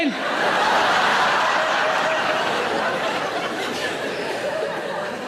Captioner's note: audience laughing